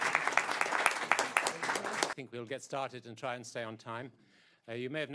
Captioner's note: applause